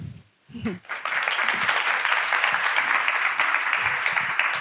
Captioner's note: audience clapping